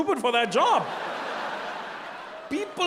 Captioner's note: audience laughing